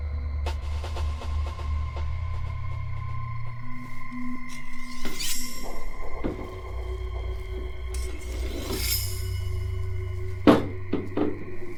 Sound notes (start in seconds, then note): 0.2 tense music; 4.9 knife sharpening